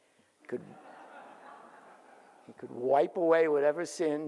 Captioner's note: audience laughs